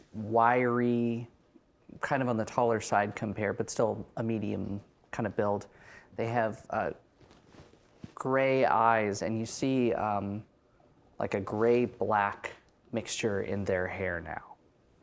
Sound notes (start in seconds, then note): none